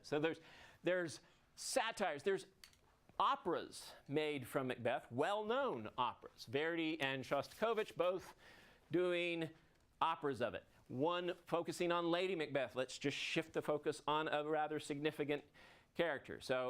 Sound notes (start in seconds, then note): none